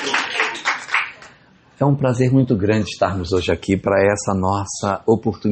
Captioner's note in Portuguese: aplausos